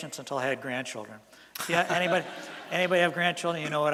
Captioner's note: laughter from audience